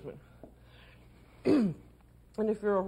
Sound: clears throat

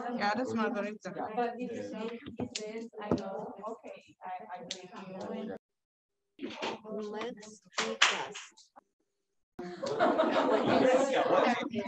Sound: non-english speech

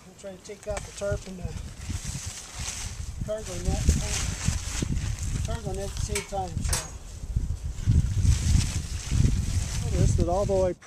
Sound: wind blowing

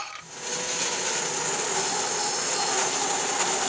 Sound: saw buzzes

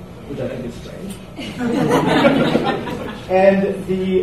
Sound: audience laughs

